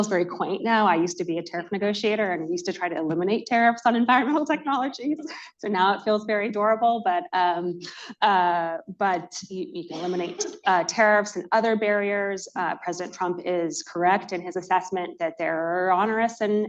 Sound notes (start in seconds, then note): 6.2 laughs